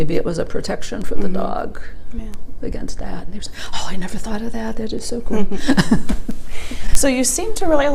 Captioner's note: chuckles